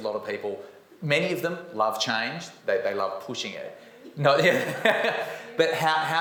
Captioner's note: laughs